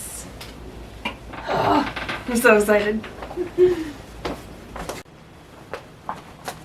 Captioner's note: giggles